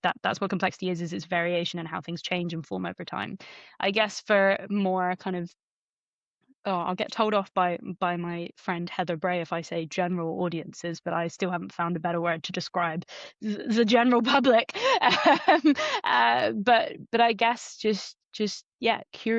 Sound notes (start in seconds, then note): 14.9 laughs